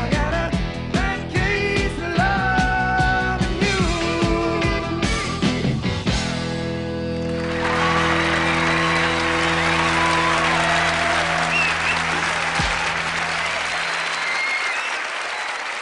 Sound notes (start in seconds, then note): 4.6 lively upbeat music swells; 7.1 audience cheering and applauding